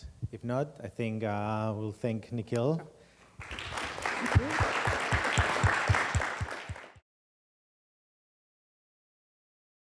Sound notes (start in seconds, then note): 3.4 applause